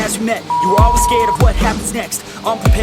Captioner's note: beep; upbeat music